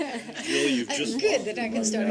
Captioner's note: laughter